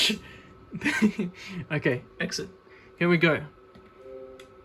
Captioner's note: chuckling